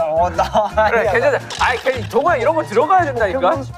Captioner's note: arguing